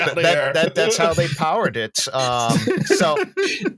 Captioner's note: laughter